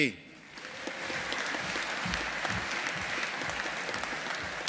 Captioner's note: audience applauding